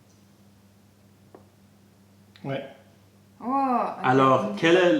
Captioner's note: french